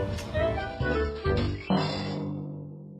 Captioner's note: musical button